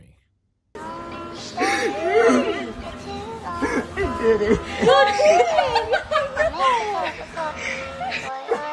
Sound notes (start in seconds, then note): 1.6 cries; 6.4 chuckles